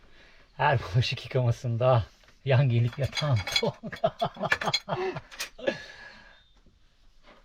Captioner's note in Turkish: kahkaha